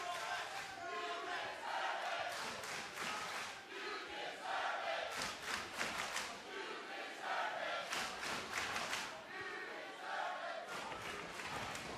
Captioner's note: fans chanting